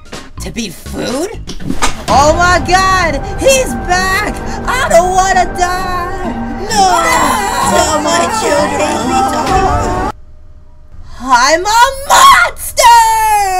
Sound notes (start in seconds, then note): 6.7 more screaming; 6.7 screaming